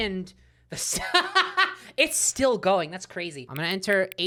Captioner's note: laughs at the pause screen